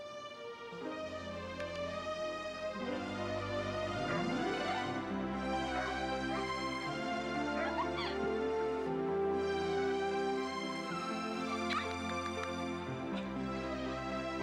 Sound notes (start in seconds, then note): 0.1 pleasant music; 5.4 Nero barking; 7.7 Caddie laughing